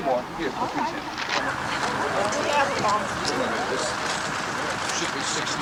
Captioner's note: all clamoring